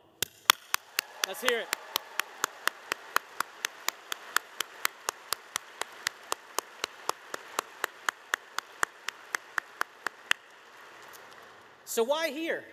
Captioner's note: applause